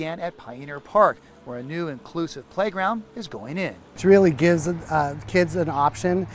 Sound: tractor moving dirt

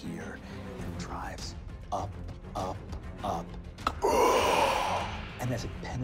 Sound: gasps

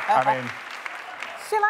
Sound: applause

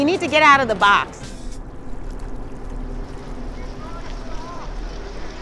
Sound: water gushing

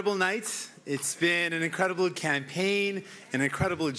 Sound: cheering

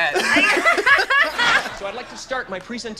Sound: group laughs

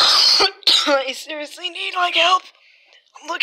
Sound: cough

